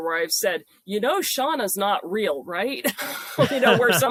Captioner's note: laughing